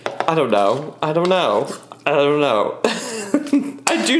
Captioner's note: laughs